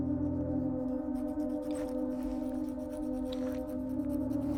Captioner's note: filing nails